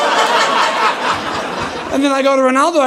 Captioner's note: audience laughing